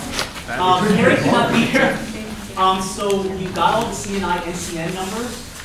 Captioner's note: laughter